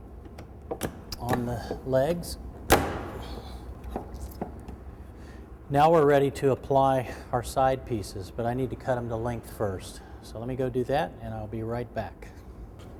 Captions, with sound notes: on the legs. [bang] Now we're ready to apply our side pieces, but I need to cut 'em to length first. So let me go do that and I'll be right back.